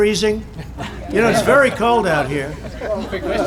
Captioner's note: laughter